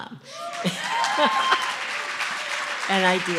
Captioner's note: cheering & Applause